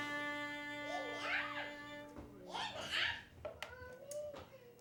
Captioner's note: children babbling